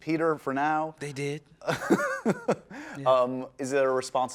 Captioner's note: laughing